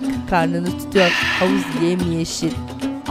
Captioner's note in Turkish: Halil Nefes sesi; Geçiş müziği